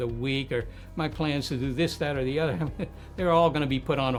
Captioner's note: chuckling